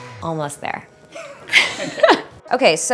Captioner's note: laughing